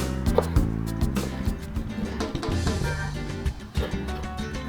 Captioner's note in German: Messer hacken